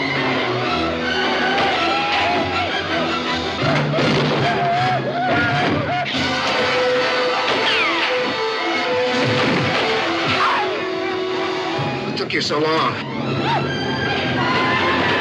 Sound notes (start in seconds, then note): 2.2 gunshots